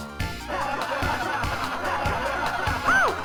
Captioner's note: audience laughter